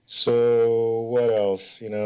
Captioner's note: none